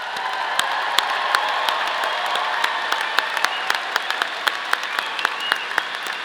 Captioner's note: audience applauding; audience cheering